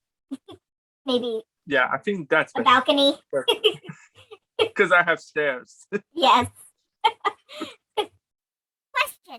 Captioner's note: laughs